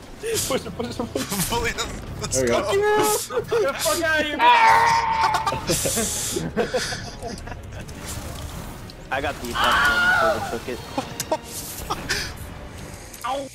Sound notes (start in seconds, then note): 4.5 Lego Yoda Death Sound effect; 5.0 chuckles; 9.5 Wilhelm Scream Sound effect; 10.7 chuckling